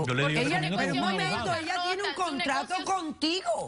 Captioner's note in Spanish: Hablan al unísono